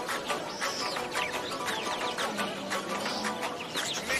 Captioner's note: birds chirping